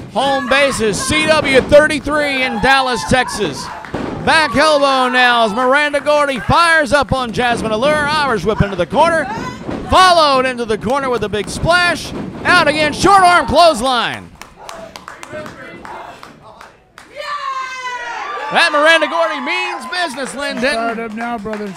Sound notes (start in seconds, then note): 15.3 crowd cheers